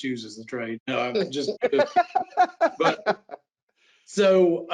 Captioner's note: laughs